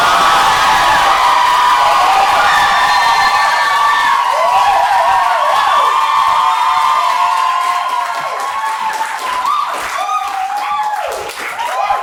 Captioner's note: audience cheering